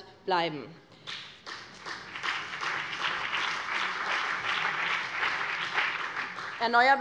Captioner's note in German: Beifall BÜNDNIS 90/DIE GRÜNEN